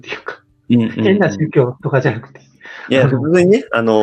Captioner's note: laughs